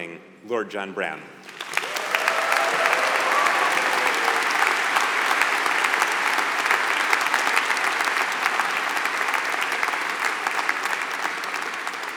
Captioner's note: applause